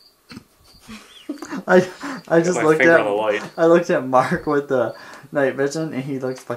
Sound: laughing

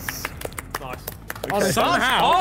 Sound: all clapping

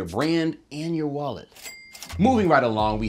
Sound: cha-chinging

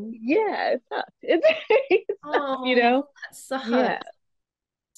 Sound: laughs

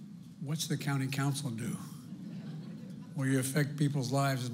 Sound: laughter

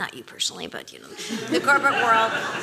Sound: laughter

